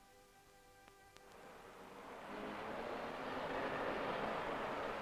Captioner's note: traffic humming